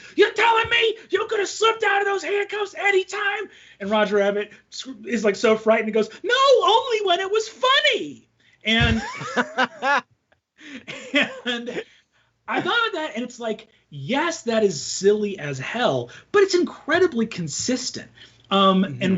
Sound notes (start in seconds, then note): 8.8 laughing